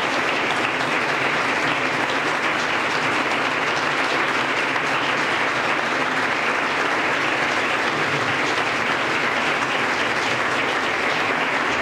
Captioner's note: applause